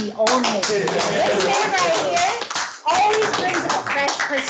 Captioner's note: clapping